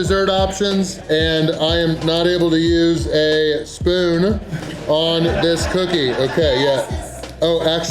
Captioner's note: crowd laughter